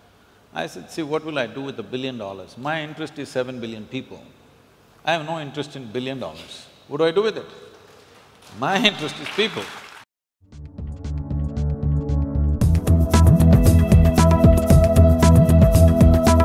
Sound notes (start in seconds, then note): 11.4 applause